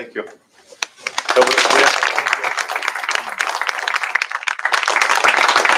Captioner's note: applause